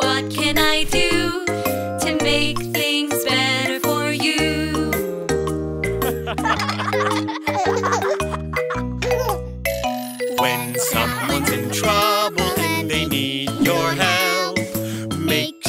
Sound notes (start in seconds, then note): 6.0 father and children laughing; 9.1 baby laughing